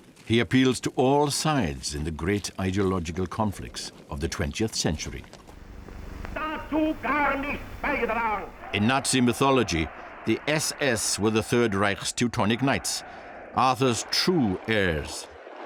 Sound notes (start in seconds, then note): 6.4 speaking foreign language